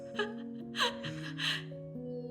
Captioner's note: shocked gasping; incredulous laughing